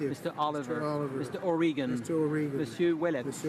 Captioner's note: speaking in french